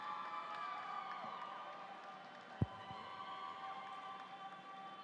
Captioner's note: audience cheering